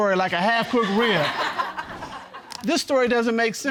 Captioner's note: audience laughing